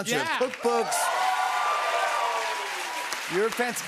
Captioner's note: cheers and applause